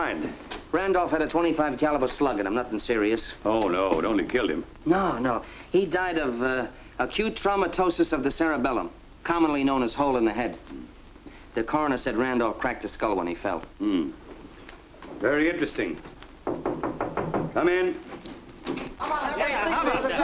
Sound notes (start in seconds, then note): 16.4 knocking on door; 18.9 chatter